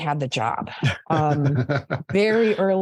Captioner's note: laughs